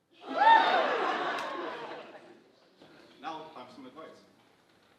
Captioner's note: audience laughing